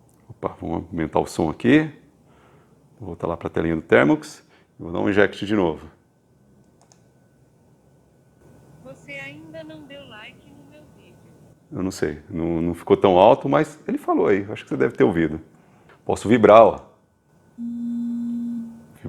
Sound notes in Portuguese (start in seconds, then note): 8.6 Celular falando